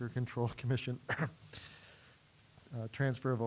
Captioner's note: clearing throat